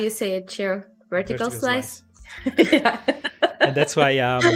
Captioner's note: laughs